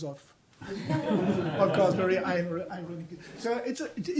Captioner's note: audience laughs